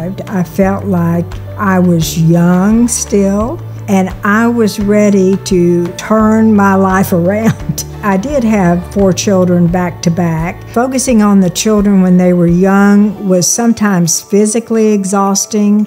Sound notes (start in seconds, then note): 7.0 laughs